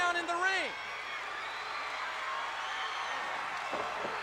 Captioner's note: crowd cheering